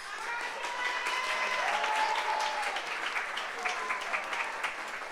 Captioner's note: audience applauds